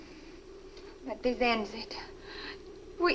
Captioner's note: Ann speaks Swedish